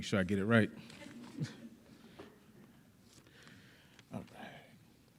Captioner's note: audience laughing